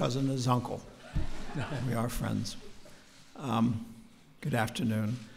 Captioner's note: laughter